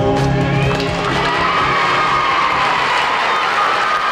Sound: audience applauding

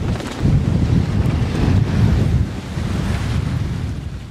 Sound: gusting winds

